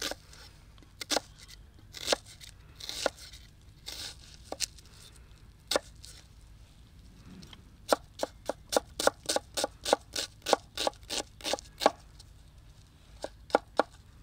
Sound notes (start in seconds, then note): 0.9 chopping sound